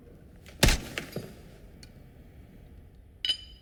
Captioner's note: crunch